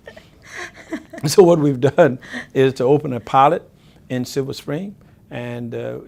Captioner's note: >Lnlaughter